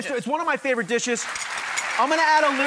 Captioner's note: audience applauds